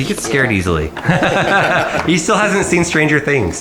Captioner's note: all laugh